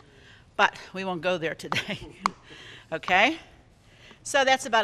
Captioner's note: laughs